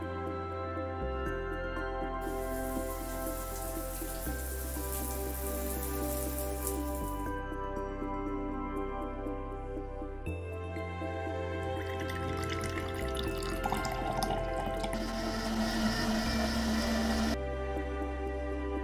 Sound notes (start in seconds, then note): 2.7 water pattering; 7.8 thoughtful music; 11.6 juice pouring; 14.8 blender whirring; 18.6 thoughtful music